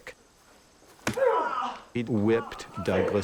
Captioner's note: yelling in pain